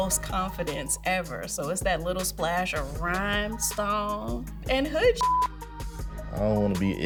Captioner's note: beep